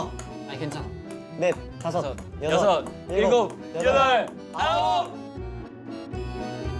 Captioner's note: the clear sound of the ping-pong ball and counting fill the air